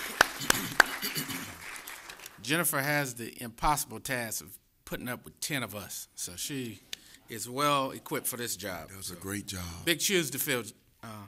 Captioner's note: applause